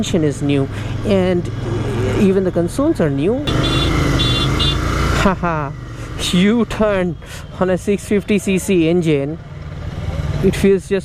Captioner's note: motorcycle